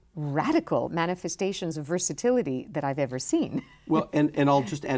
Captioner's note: laughs